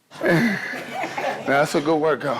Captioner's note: laughing